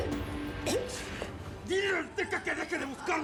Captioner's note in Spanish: sonidos al ahogarse sara